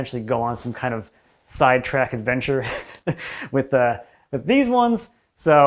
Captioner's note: chuckles